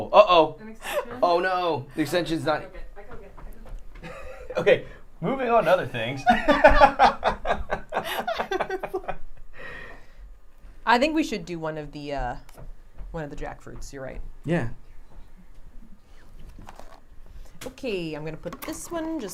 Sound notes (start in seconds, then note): 6.2 laughing